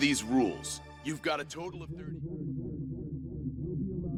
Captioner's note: becomes muffled